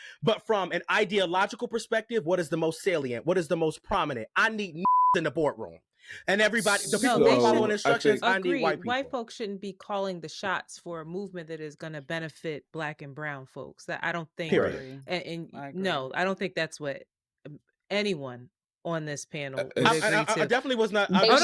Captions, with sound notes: But from an ideological perspective, what is the most salient? What is the most prominent? I need (beep) in the boardroom. And everybody, the people I own instructions, I need white people. Agreed. White folks shouldn't be calling the shots for a movement that is gonna benefit black and brown folks. That I don't think- Period. No, I don't think that's what, I don't think that's what anyone on this panel. I definitely was not, I don't know, I know.